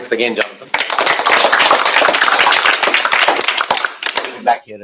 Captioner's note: applause